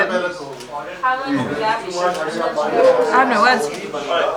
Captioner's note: people chattering